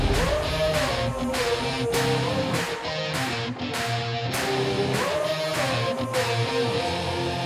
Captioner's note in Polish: Aplauz